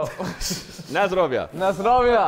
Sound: Sidemen laughing

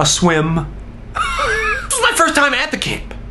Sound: laughs

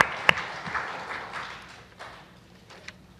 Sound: applause

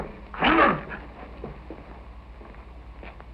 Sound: grunting

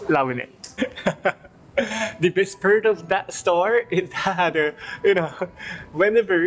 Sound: chuckles

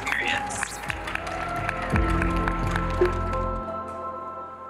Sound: residents cheering

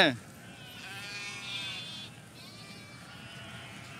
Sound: moo

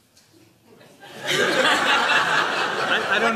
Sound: laughter

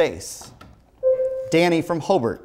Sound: buzzer sounds

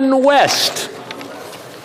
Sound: some Applause

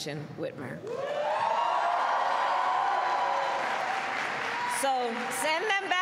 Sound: applause

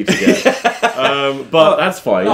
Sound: laughing

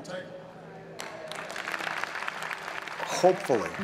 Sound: applause

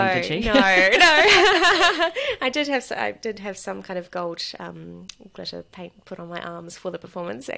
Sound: laughs

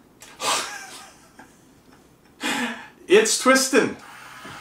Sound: laughs

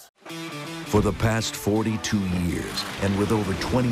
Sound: voiceover

